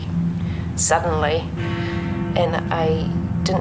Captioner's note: clock chiming